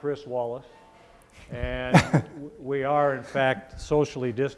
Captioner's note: male panelist laughs